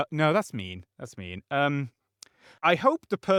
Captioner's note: lip smack